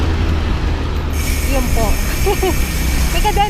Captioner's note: laughs